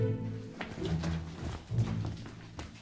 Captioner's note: fooptsteps